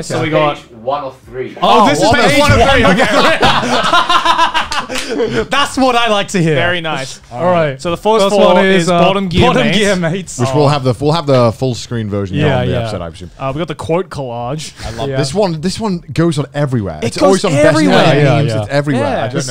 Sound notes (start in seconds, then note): 1.8 laughing